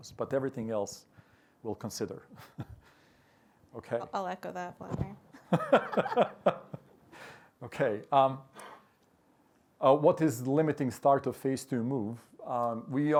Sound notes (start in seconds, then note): 5.4 laughter